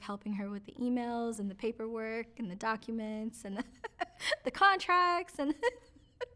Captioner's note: laughs